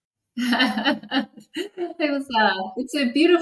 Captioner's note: laughs